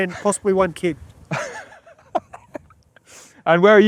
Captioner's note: laughs